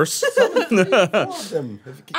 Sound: chuckling

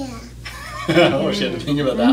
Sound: laughing

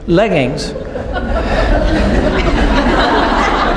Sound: laughing

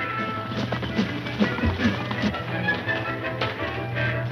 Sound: horses galloping; dramatic music

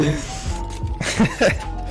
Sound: laughing

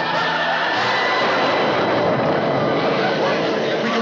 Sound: thunder

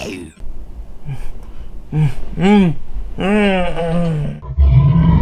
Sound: monster Roars; sleep Moaning; monster Mimicking Sound

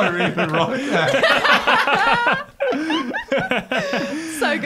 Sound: everyone laughing

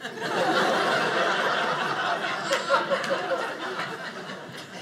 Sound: audience laughing

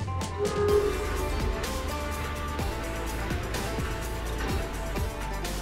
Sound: upbeat music; machinery squeaking

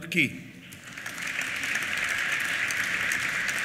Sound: applause

